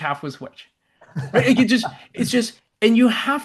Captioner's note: laughs